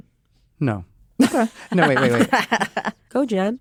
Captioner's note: laugh